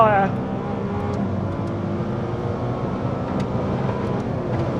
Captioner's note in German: Motor brüllt